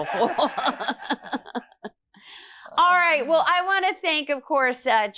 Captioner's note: laughs